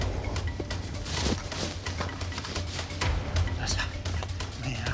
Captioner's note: running steps